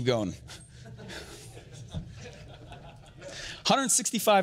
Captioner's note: audience chuckles